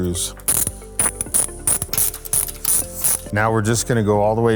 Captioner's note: ratcheting